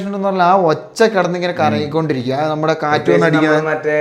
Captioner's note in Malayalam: തൊണ്ട ശരിയാക്കുന്നു